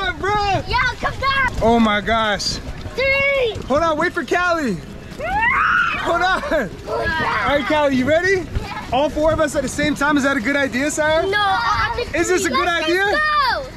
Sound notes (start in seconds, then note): 5.2 screaming